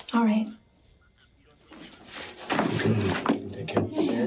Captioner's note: telephone ringing